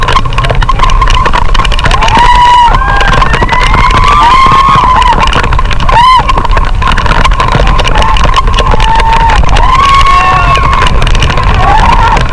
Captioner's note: everyone screaming